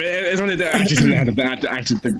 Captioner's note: clears throat